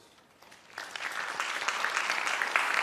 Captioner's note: applause